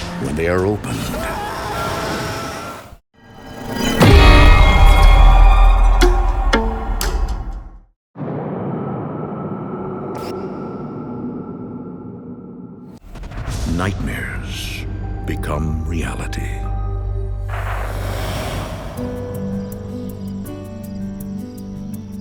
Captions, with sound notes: When they are opened. (boy screaming) (ominous music) Nightmares become reality. (pleasant music)